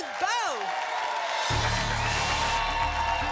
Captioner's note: static